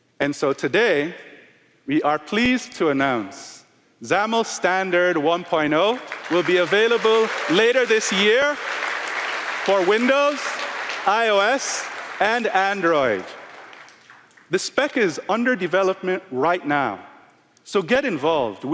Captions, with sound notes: And so today we are pleased to announce XAML Standard 1.0 will be available later this year >> [APPLAUSE] >> [APPLAUSE] >> For Windows, iOS, and Android. The spec is under development right now, so get involved.